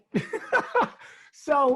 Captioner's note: laughs